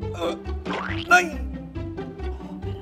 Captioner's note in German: Pflatsch